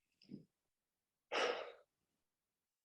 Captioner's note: exhales